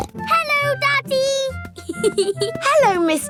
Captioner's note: snorts; giggling